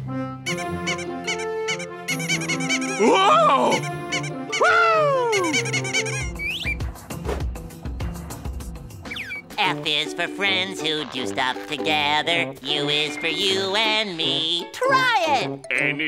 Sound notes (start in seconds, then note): 0.1 squeaking; 5.6 squeaking